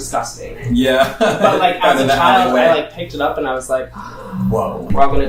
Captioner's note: gasp